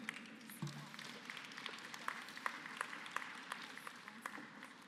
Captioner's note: applause